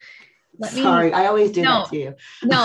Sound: laughs

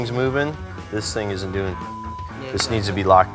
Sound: beep

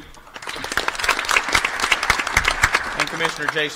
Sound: applause

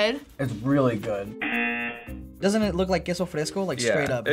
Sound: buzzer

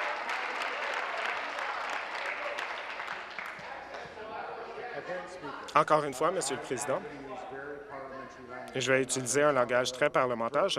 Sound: applause

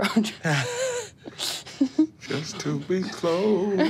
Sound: laughs

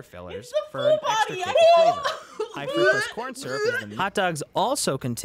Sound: gags

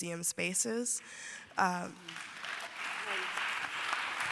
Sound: applause

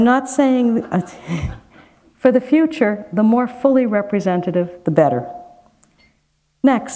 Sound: chuckle

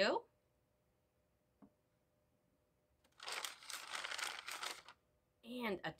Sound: silence

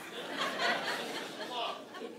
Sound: congregation laughing

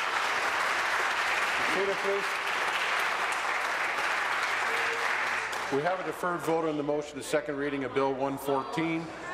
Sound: applause

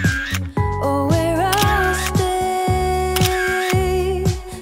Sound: camera shutter

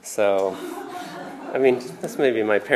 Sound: laughter

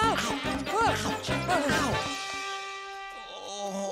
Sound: groaning; groaning

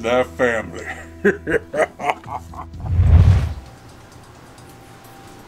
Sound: evil laughing

